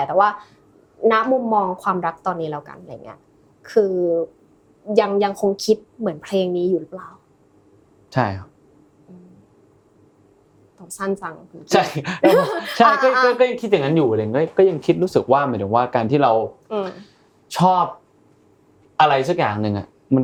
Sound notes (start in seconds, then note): 12.0 laughs